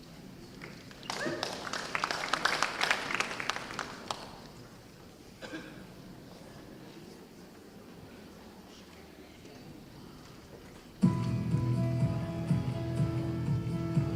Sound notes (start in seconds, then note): 1.0 cheers and applause; 11.0 upbeat music